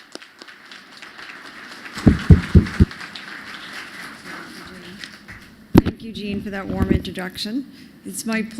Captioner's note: applause